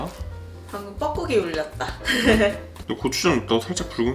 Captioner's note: laughs